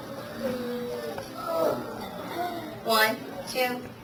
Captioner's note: students chattering